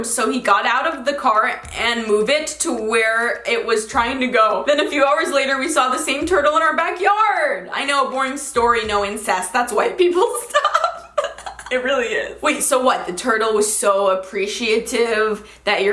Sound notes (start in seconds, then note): 10.4 laughing